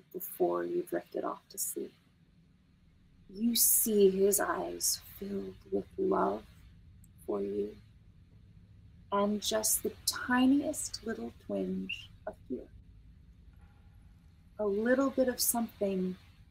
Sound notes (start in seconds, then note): none